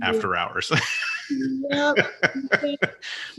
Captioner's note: laughs